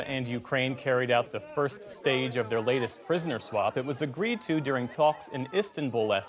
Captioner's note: chanting